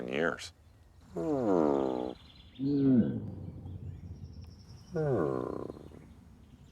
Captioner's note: Steve and Half Nose grunting